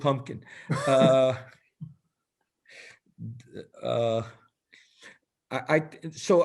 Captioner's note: laughter